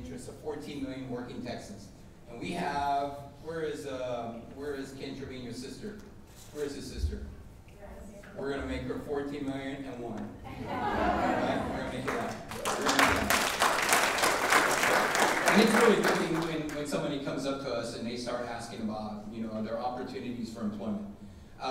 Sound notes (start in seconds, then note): 10.5 audience laughing; 14.5 audience applauding